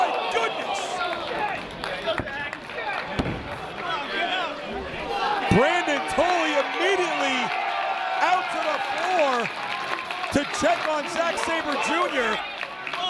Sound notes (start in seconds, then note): 2.5 applause